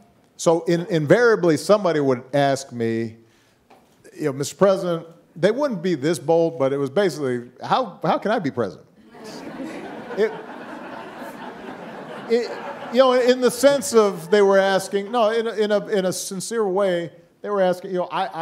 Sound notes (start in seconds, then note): 9.1 audience laughing